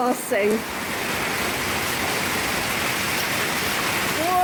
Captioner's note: extremely loud downpour